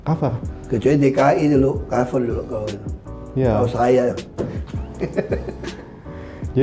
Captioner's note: laughing